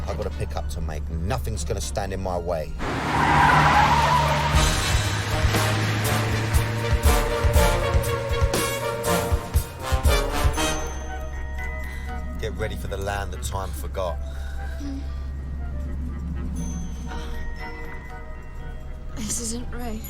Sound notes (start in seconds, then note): 15.8 moaning